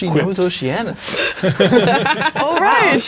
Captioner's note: players laughing